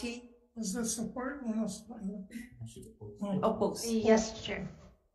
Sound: murmurs

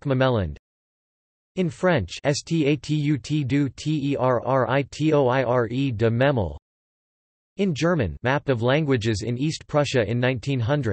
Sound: in German

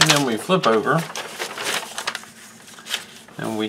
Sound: rustling paper

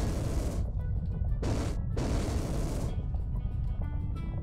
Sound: rocket firing

